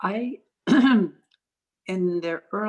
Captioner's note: clearing throat